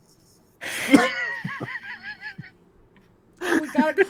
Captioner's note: laughing